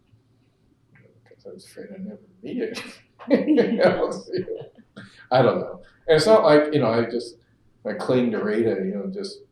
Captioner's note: laughs